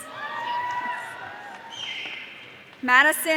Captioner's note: audience cheering